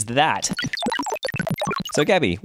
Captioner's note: digital blips